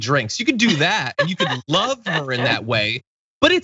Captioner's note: laugh